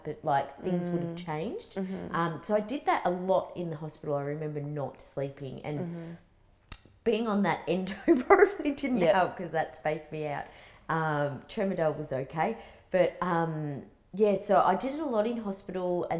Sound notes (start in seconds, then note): 8.0 chuckles